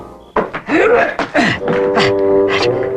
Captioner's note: groaning